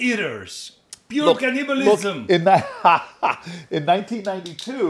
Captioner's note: Sen. Booker chuckles